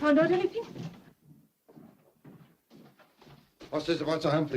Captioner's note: indignant footsteps